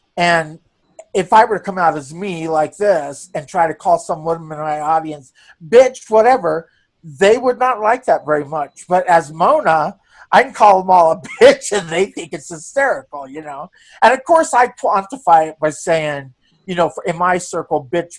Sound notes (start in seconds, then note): 11.0 laughing